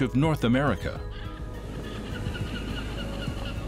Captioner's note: birds cry